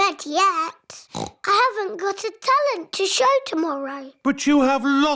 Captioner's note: oinks